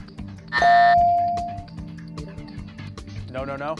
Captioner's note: buzzer